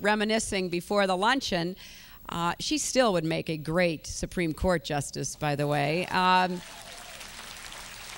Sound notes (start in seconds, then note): 6.6 applause